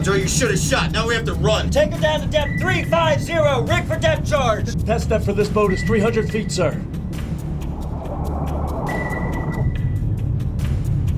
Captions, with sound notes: I hear her, sir. She's right on top of us.They saw our scope! Joe, you should've shot! Now we have to run! Take her down to depth three, five, zero. RIG FOR DEPTH CHARGE! The test depth for this boat is 300 feet, sir. [radar blipping] [boat descending]